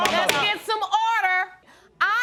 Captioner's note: gavel pounding